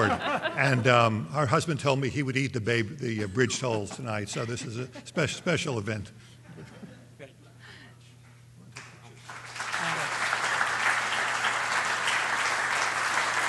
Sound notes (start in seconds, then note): 9.1 applause